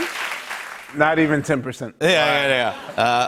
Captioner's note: laughter